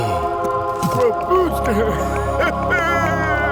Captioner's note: laughs